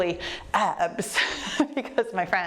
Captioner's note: laughs